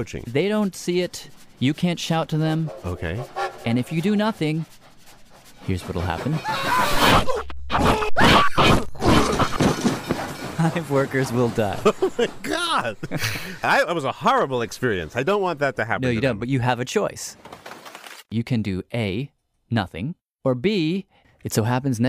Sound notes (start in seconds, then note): 10.4 laughs